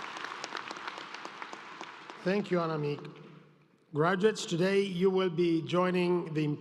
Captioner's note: applause